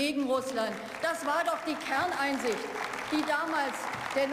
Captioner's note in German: Beifall